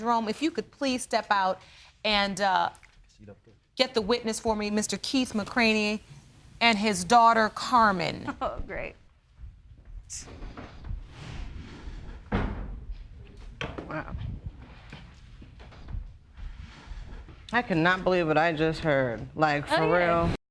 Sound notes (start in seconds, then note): 7.0 chuckles